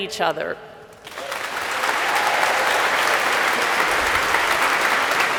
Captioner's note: audience applauds